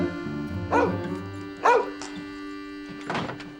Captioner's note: barking